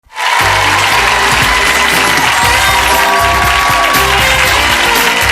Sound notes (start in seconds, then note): 0.0 audience cheering and applauding; 2.6 jazzy music